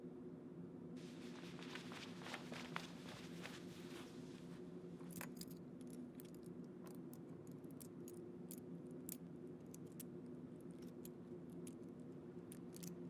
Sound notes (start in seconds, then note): 5.7 metal clinking